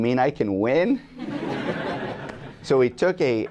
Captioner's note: laughter